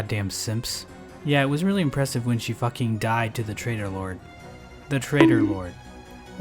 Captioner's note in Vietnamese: bonk